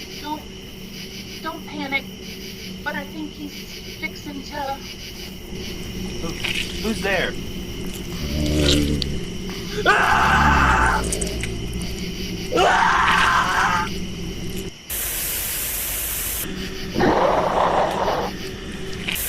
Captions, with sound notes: Don't, don't panic. But I think he's fixin' to Who's there? [man screaming] [growling]